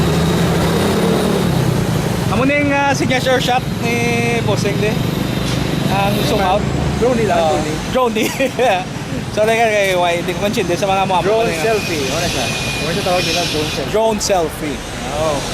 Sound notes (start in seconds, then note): 8.1 laughs